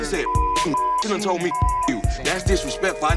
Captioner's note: beeping